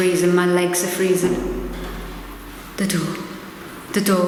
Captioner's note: door banging